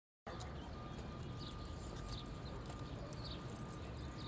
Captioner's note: birds chirping